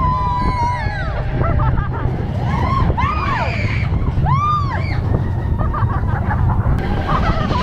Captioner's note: honestly laughing